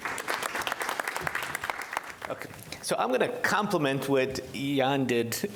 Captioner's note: applause